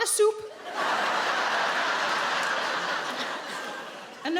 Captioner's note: audience laughing